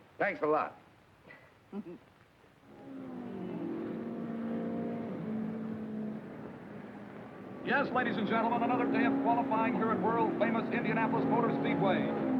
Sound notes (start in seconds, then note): 1.7 Mary chuckling; 3.2 engines revving